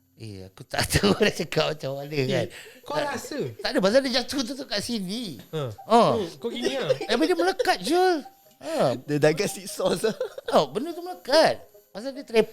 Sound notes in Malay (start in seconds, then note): 3.3 ketawa